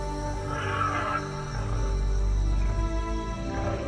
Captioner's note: dinosaurs grunting